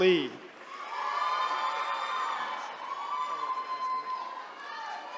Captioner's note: attendees cheering